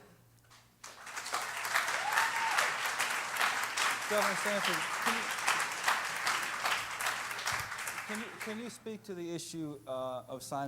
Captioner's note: applause